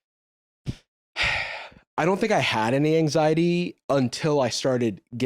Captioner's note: sighs